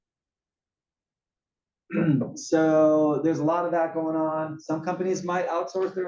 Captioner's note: cough